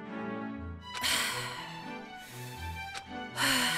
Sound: deep breath

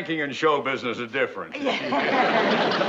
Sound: both chuckle

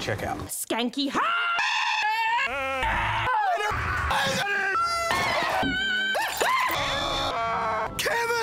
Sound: all yell loudly

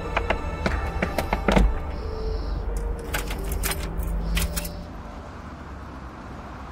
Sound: car rustling; keys jingling; traffic humming

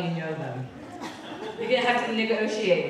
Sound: audience laughing

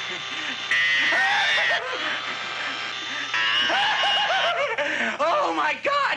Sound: grinding; screaming; grinding; giggling

